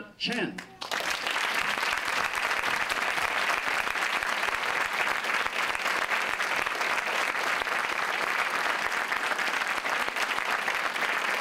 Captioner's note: applause